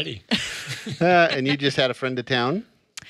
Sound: all laughing

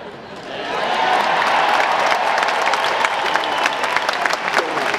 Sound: audience cheering

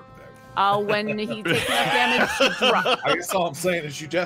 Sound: all laugh

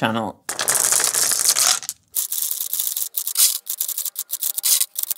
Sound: marbles rolling

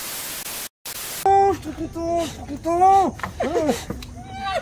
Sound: laughs

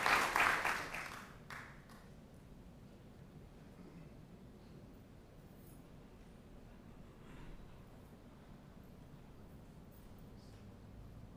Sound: applause

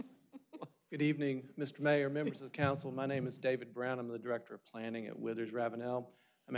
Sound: laughter

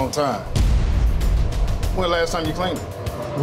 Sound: boom sound effect

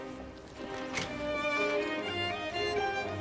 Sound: sound of door opening

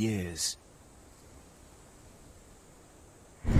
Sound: crash

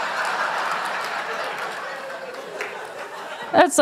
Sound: laughter

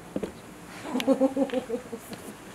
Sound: laughter

